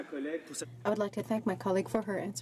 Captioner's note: speaking French